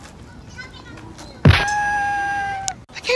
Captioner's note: boom